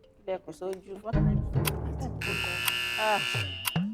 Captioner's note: buzzer preesed